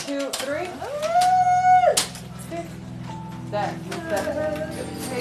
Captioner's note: crying